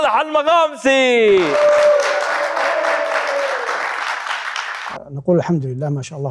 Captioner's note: clapping